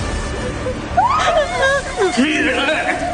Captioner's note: sobbing